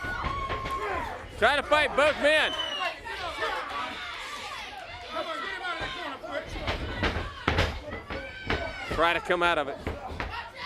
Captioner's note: crowd chatter